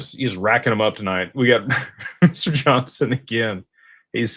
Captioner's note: laughter